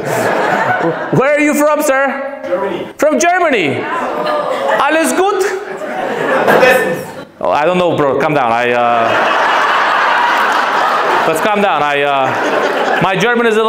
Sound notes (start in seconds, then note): 6.4 says in German